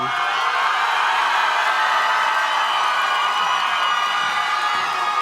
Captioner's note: audience cheers and claps